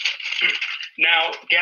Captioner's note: paper rustling